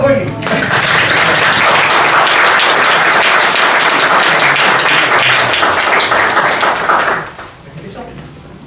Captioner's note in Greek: χειροκρότημα από το κοινό